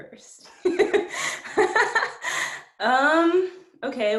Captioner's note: laughs